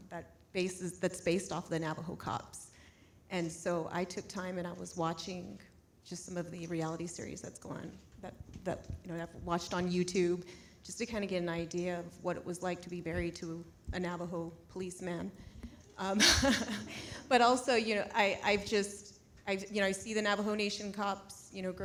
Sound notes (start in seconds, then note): 16.1 laughs